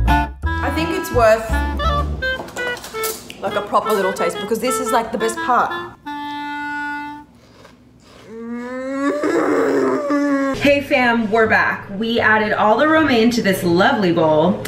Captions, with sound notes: I think it's worth like a proper little taste because this is like the best part. (loud crunching) Mm. - Hey fam, we're back. We added all the romaine to this lovely bowl.